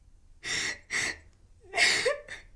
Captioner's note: sobbing